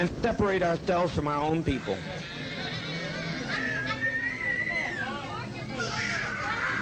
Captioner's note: hysterically screaming child